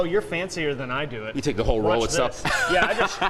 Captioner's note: laughs